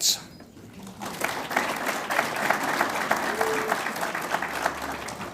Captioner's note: audience applauds